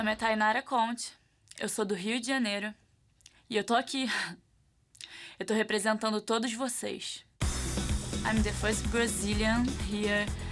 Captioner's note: speaking foreign language